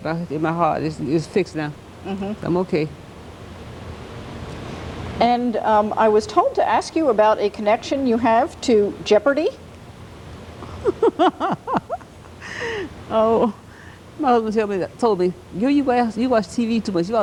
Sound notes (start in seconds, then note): 10.6 laughter